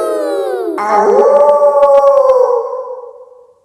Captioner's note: kids howling; wolf howling loudly